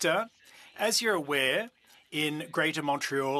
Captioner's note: speaking French